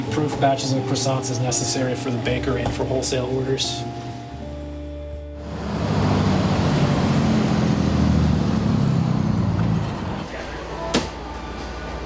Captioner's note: bus engine slowing